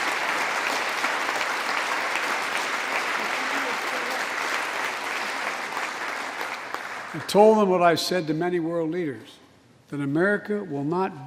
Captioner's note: applause